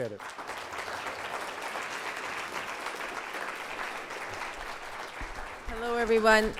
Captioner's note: audience applause